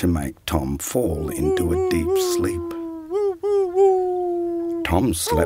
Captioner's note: dog howls